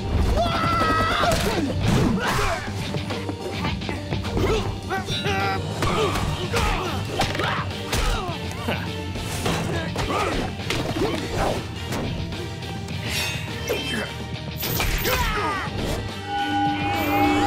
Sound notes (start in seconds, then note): 0.3 screaming; 1.6 grunting; 4.2 grunting; 9.6 grunting; 13.4 grunting